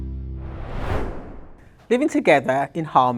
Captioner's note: screen swooshing